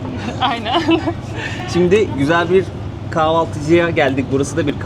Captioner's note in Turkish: kahkaha